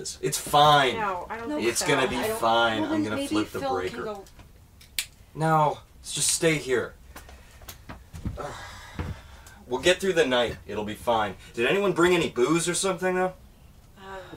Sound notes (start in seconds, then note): 8.3 sighs